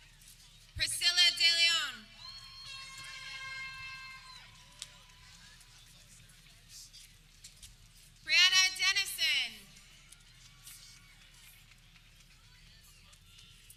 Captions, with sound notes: Priscilla DeLeon (air horn blares) Brianna Dennison